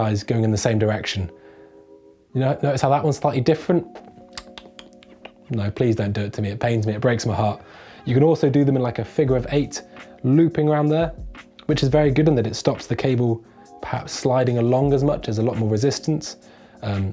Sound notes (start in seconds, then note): 4.2 clicks tongue